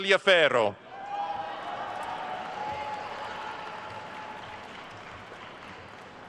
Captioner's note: attendees cheering and applauding